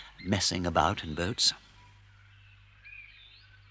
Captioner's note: none